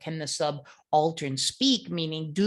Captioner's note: speaking in foreign language